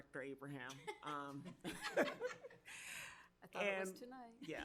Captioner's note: board members laugh